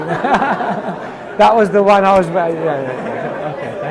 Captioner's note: audience laughs